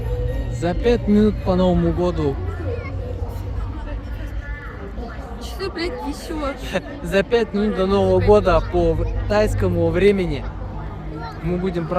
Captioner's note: 🎇 lights, noise, crowd, Thai speech, music, laughter